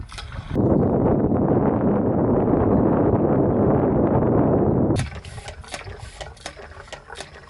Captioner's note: wind